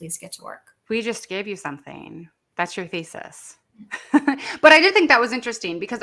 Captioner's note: laughs